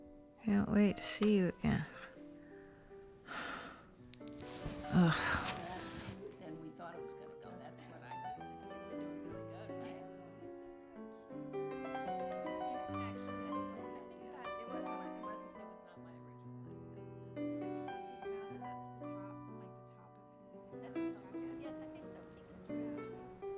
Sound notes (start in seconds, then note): 6.6 chattering